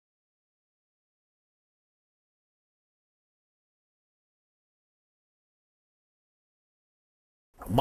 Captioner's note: no audio